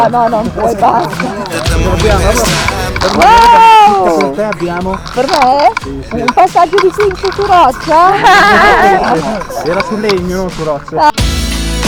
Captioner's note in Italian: tutti ridono